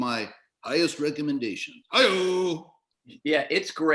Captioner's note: Johnny Carson Voice